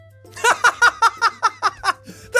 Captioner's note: laugh